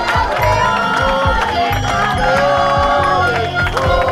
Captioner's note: chanting